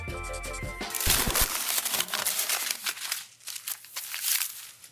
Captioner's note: crumpling paper